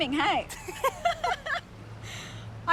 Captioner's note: laughs